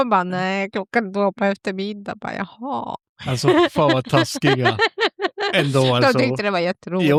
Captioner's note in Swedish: skratt